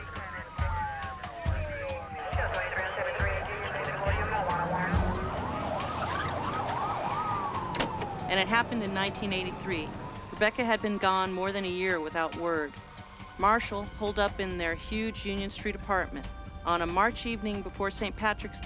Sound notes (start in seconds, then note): 0.1 police sirens; 7.5 police radio chatter